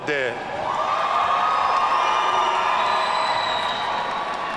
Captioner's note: audience cheering